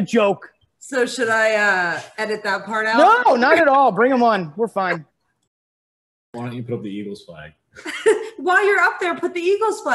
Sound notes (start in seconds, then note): 8.1 laughs